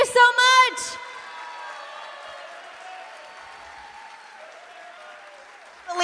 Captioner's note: cheers and applause